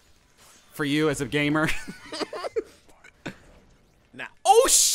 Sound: both laughing

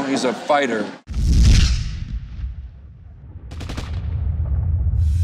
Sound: explosions and machine gun sounds

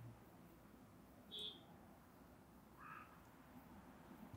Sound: car honking

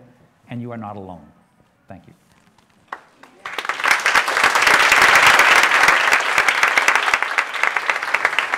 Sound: applause

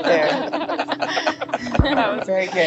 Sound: everyone laughs

